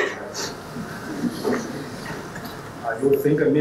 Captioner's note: audience laughing